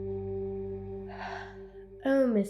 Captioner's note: yawns